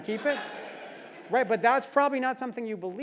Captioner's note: laugh